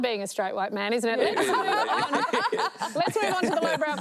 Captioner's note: all laugh